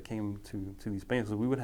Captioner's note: speaking foreign language